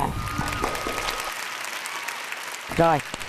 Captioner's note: applause